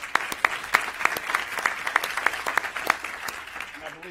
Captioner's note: applause